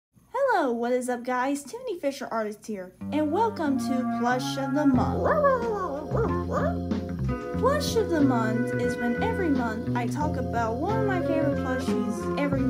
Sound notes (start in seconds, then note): 5.2 barks